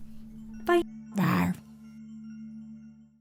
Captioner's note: dinosaur roars